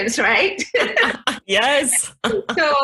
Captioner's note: both laugh